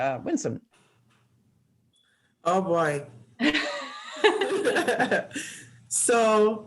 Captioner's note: laughing